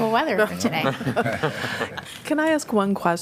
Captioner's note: laughter